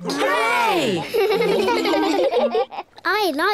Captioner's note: giggle